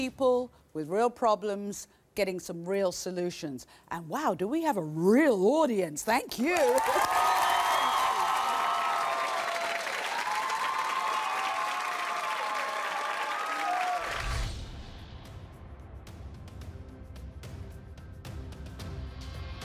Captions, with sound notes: with real problems getting some real solutions. And wow, do we have a real audience! Thank you! (audience cheering and applause) Thank you, bye bye. (audience cheering and applause) (dramatic ambient music)